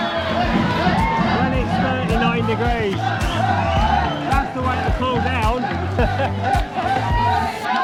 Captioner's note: laughter